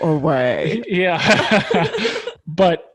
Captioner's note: laughs